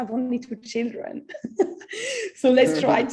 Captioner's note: laughs